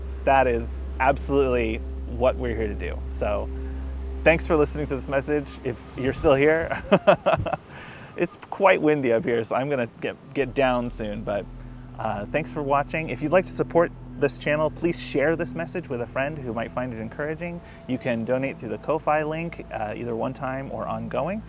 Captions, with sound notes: That is absolutely what we're here to do. So thanks for listening to this message. If you're still here (laughs). It's quite windy up here, so I'm going to get down soon. But, thanks for watching. If you'd like to support this channel please share this message with a friend who might find it encouraging. You can donate through the Ko-fi link, either one time or ongoing.